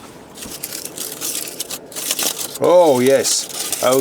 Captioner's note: sound of foil unwrapping